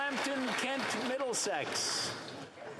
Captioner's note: some Applause